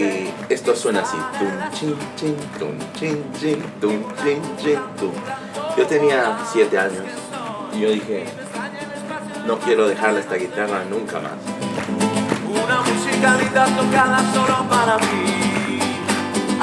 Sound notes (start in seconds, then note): 1.4 imitates guitar strumming